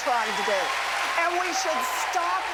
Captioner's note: cheering and applause